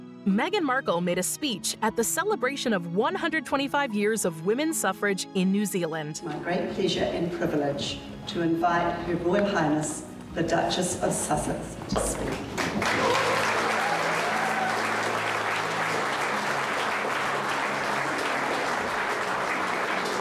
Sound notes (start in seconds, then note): 13.7 participants clapping